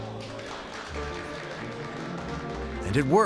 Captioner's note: guests applauding